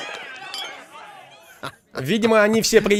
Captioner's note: chuckles